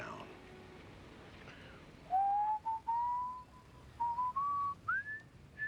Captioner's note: whistling